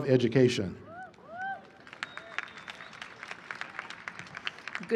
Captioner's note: applause